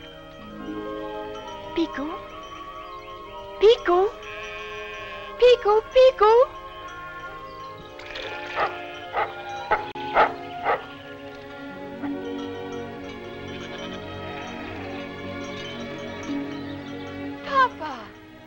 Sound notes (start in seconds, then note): 8.4 Bigoux barking; 11.6 soft music